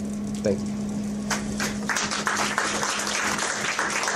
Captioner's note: applause